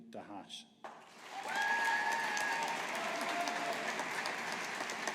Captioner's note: audience applauding